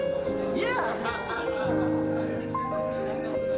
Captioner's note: laughter